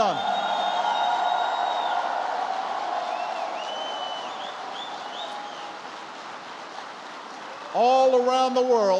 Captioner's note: applause